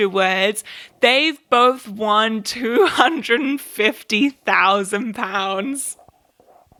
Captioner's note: laughs